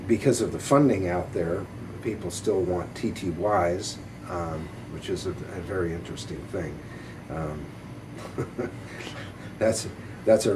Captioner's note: chuckles